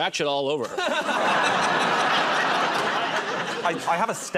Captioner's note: laughter